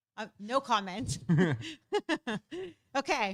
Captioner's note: both laughing